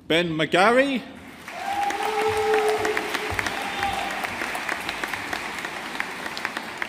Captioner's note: audience applauding